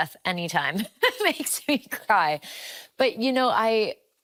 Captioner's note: laughing